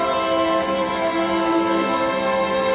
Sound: angry scream

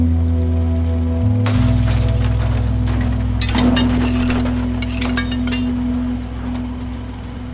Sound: engine roaring; sad music

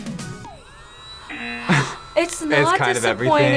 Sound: vacuum whirs; buzzer rings

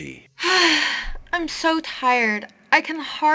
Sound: sigh

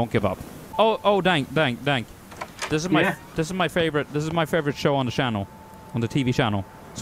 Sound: stutters

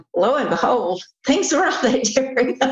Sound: laughter

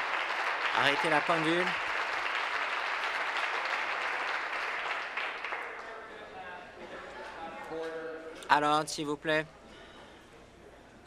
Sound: some Applause

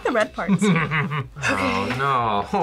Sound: laughs

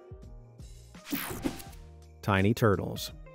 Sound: graphics whooshing

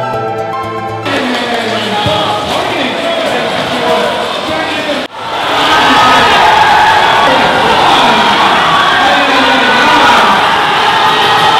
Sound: cheering

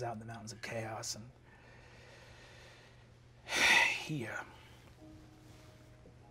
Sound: sighing

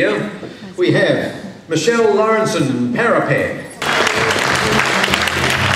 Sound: cheering and clapping

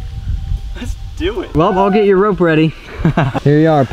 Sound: laughs

